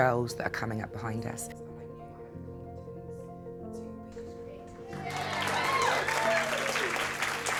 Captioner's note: talking and applause